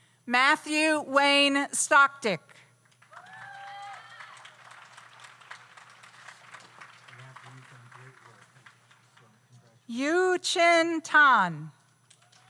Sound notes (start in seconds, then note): 3.0 audience applauds